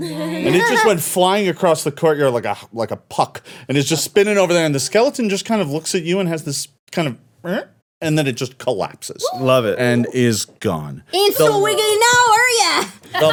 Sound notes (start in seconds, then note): 7.4 mouth noise